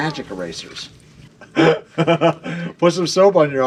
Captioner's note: laughter